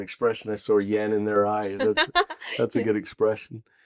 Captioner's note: laughs